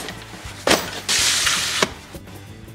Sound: thudding; scraping; cheerful guitar music

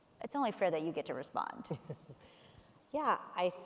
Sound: chuckles

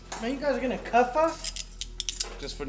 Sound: handcuffs clicking

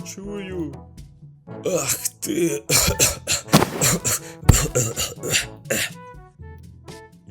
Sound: coughs and dies

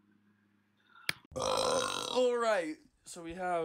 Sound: belch

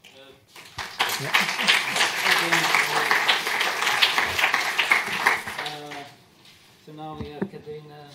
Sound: applause

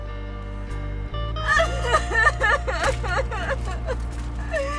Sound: crying dramatically

